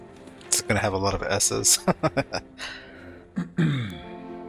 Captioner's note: laughing